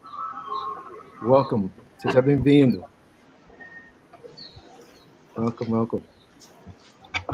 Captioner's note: speaking Portuguese